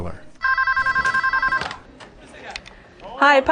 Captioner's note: phone rings